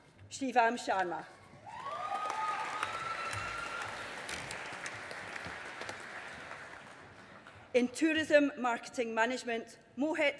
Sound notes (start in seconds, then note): 1.8 audience applauding